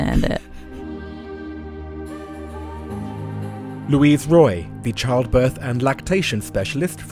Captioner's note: voiceover